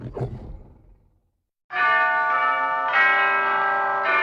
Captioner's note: bells tolling